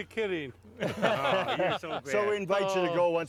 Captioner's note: laughing